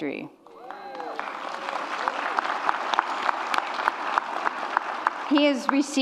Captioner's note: audience applause and cheers